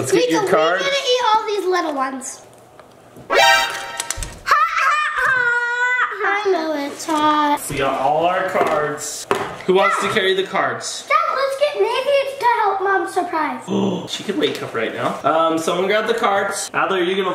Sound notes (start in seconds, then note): 3.3 surprise sound effect plays